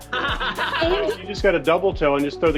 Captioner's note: all laugh